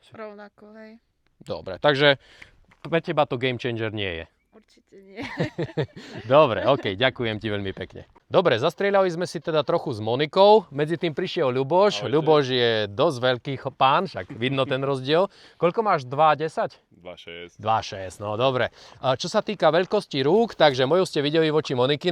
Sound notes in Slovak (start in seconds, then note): 5.1 smiech